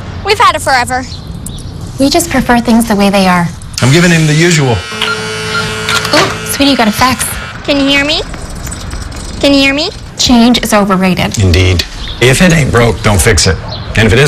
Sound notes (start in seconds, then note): 3.8 beeping